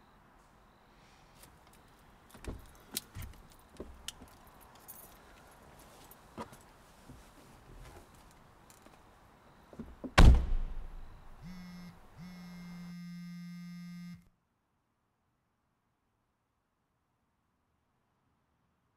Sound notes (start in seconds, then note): 11.4 phone vibrating